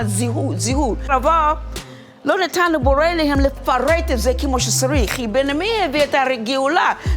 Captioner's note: continues speaking in foreign language